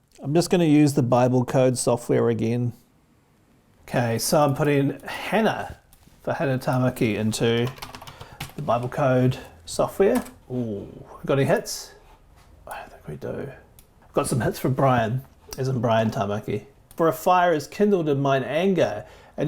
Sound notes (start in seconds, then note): 5.4 mouse clicking; 7.4 keyboard clicking; 13.5 mouse clicking